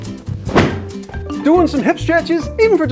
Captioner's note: bright music; thud